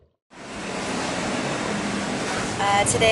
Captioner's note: sound: breathing and swimming; sound: Traffic